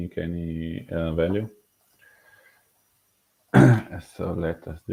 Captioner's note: clearing throat